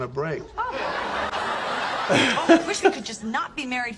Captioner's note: audience laughing